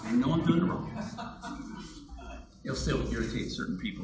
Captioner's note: audience laughs